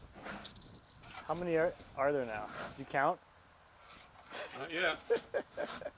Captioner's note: laughs